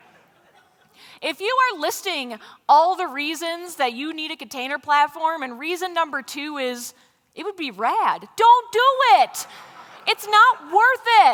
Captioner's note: laughter; laughter